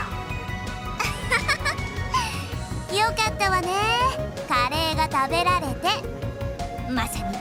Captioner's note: laugh